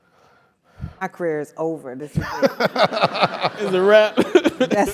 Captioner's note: laugh